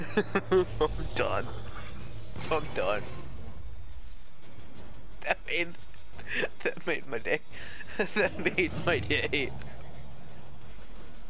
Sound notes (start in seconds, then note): 7.6 laugh